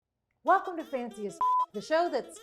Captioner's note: beep